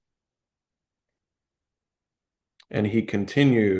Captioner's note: pause